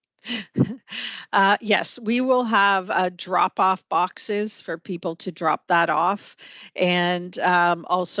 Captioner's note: laughter